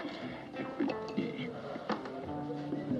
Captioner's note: stammering